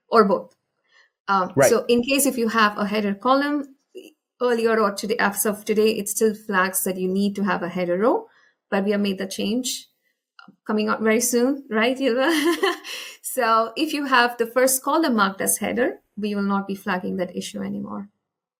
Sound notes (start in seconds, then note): 12.4 laughs